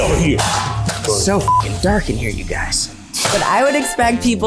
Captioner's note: beep